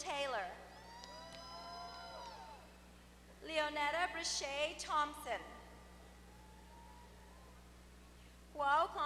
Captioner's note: applause